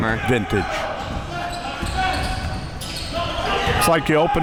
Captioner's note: audience chattering and yelling